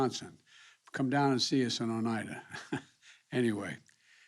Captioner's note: laughs